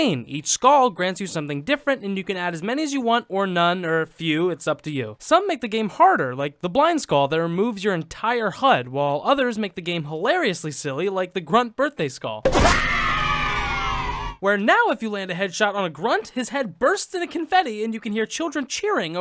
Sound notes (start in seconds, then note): 12.8 children cheering